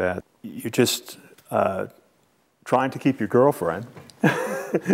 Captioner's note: laughs